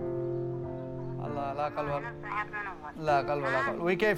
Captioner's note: non-english speech